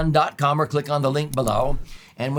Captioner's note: mouse clicks